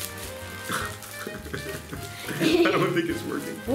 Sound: wimpering

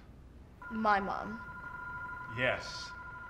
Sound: loud ringing

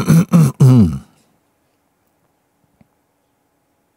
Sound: silence

